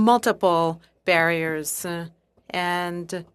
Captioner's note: speaking in French